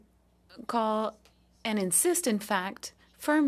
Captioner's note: speaking French